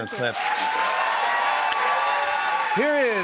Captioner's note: cheers and applause